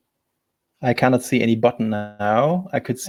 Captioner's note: distortion muffles speaker